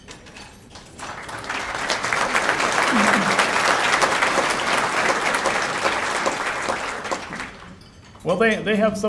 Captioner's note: applause